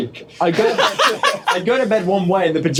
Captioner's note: laughter